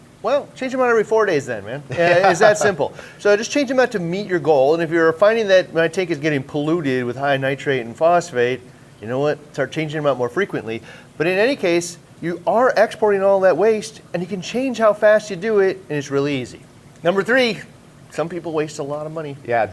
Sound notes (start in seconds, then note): 1.9 laughs